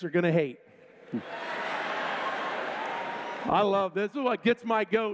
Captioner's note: laughter